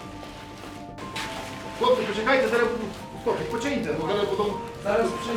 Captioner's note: man speaking in foreign language